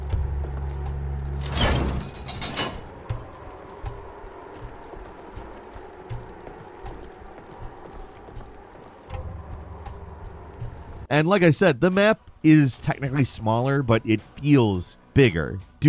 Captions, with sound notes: (loud thump) And like I said, the map is technically smaller but it feels bigger